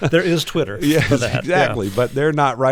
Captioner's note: laughter